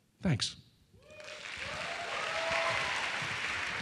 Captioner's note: applause